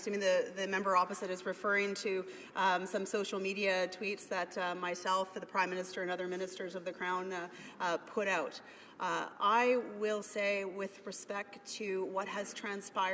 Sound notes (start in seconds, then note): none